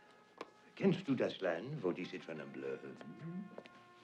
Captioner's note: speaking german